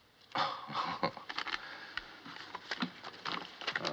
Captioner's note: chuckles